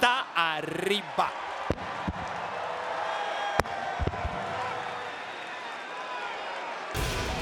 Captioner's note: applause